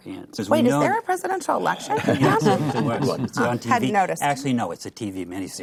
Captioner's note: laughs